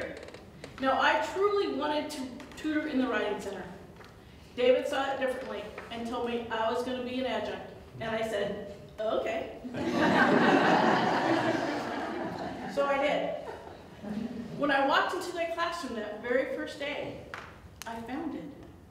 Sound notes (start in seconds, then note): 9.7 audience Laughter